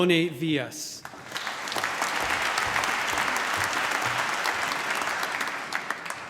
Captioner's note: applause